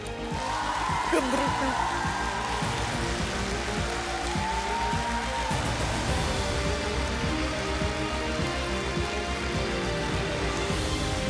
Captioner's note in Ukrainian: оплески